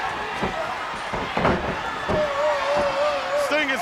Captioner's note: crowd cheering; floor slamming; body slamming